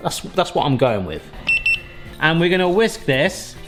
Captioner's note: thermometer beeping